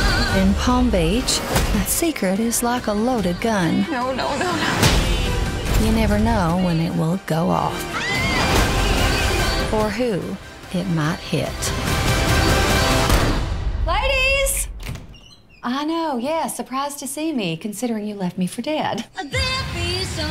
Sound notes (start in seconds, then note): 13.0 gunshot; 14.2 fingers snap